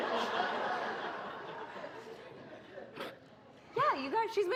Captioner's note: laughter